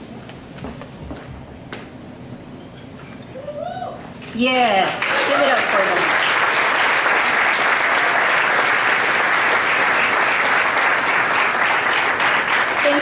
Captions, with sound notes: Yes, give it up for them. (audience applauding) (audience applauding)